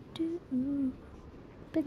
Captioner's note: humming